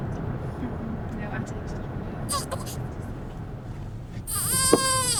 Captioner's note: baby cries